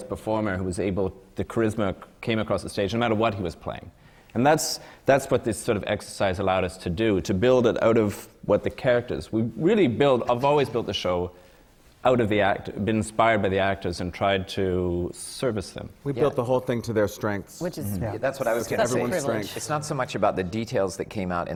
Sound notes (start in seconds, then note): none